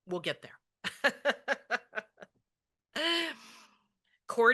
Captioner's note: laughs